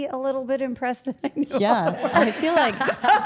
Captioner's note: laughs